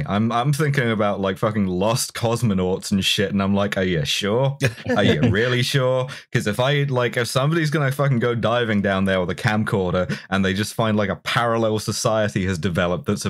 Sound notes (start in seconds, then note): 4.6 laughter